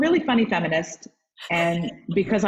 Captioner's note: laugh